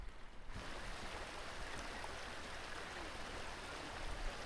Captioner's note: rain